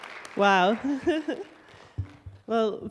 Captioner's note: chuckle